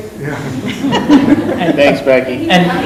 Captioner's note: laughing